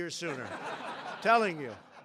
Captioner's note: laughter